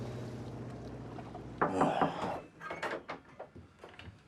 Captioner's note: la porte s'ouvre en grinçant